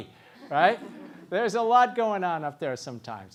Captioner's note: laugh